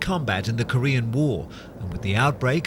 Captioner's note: plane engines